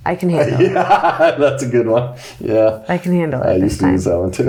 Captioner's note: laughs